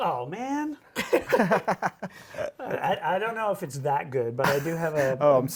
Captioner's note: both laugh